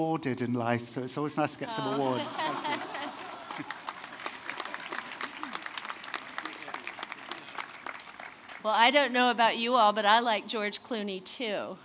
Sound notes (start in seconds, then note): 2.6 applause